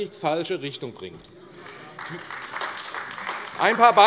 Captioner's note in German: Beifall AfD